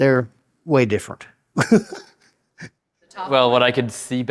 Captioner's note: laughs